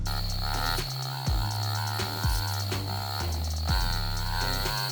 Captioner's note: brrrum, brrrrrrrrrum, rum rum rum